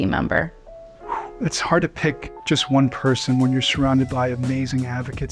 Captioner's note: breathes out